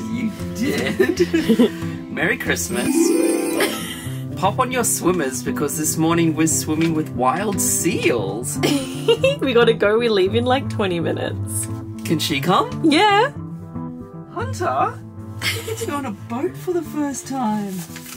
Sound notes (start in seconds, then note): 0.2 laughing; 1.8 giggling; 2.7 magical music; 3.6 giggling; 8.6 giggling